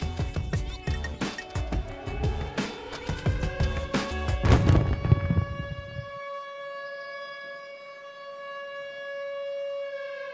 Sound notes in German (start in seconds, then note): 2.9 Musik verklingt; 4.3 Dröhnende Sirene